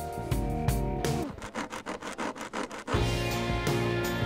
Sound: nails scratching; mellow electric guitar music

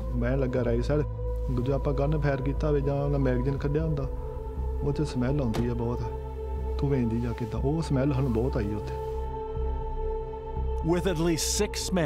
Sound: speaking alternate language

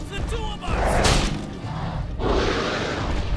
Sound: snapping; roaring

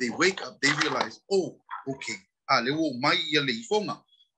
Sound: Speaks Samoan

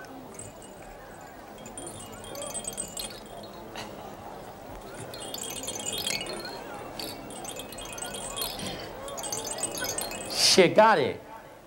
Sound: shaking rattle over each ear

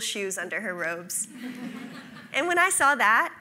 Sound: audience laughs

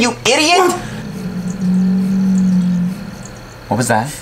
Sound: creature growl

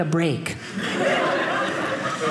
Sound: audience laughing

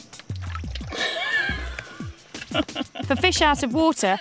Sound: laughs

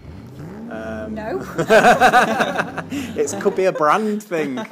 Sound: laughter

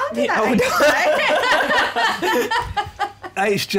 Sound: laughter

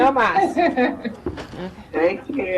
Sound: laughs

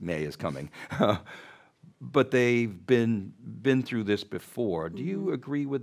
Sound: laughs

